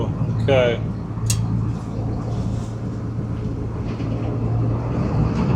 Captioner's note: engine noise